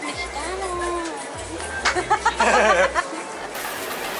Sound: laughter

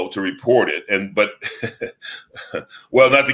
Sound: chuckles

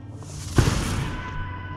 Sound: gunshot; far-off shouts

